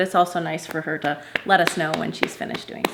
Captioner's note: clapping